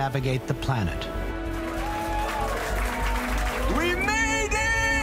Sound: applause

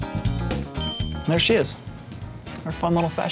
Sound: ding

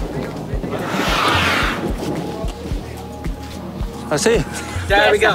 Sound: elephants whooshing

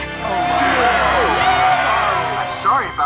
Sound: all exclaiming

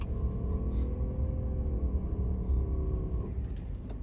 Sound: engine roaring

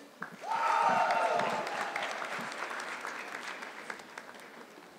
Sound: audience clapping

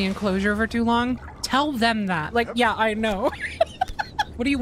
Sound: laughter

